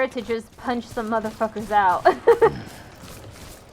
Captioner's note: laughs